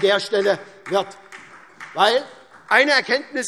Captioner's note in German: Vereinzelter Beifall SPD